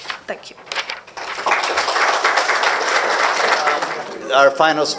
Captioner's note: applause